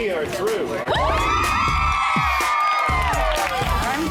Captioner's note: cheering